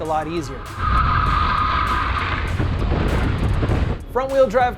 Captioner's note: screeching tires